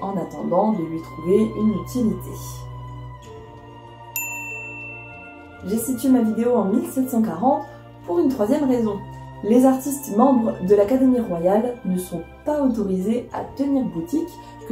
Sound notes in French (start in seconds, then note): 4.1 ding